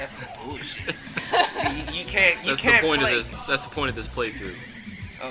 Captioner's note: chuckle